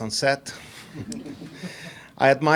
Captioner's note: audience laughs